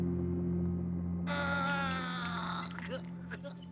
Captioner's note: groans